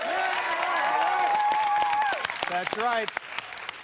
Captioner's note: cheers and applause